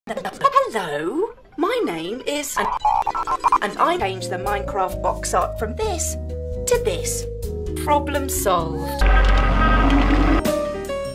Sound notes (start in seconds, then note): 1.3 ungodly modem startup noises; 9.0 hell noises